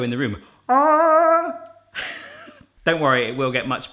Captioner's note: chuckling